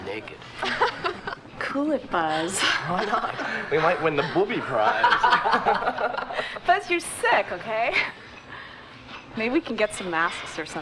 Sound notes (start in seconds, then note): 2.5 Liz giggling; 5.7 all laughing